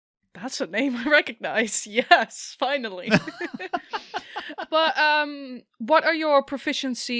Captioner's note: laughs